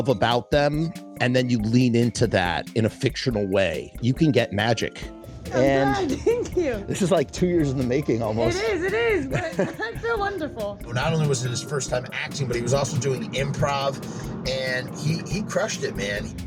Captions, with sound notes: about them, and then you lean into that in a fictional way. You can get magic. I’m glad, thank you! -This is like two years in the making, almost. It is, it is! [Laughs] -It’s so wonderful. Not only was it his first time acting, but he was also doing improv and he- he crushed it, man.